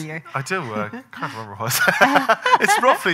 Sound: laughing

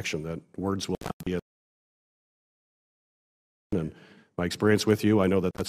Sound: audio cuts out

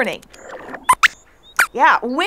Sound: squeaks squeaks

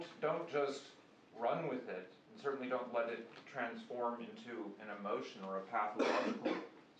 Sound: student cough

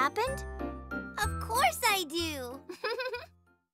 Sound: chuckles

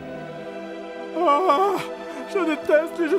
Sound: moans

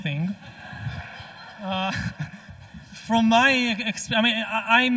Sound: audience laughs

